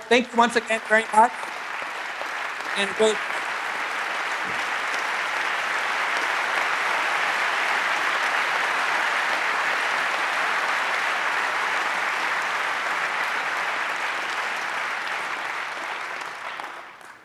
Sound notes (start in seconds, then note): 3.1 applause; 5.5 continued applause